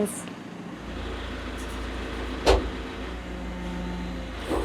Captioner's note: vehicle humming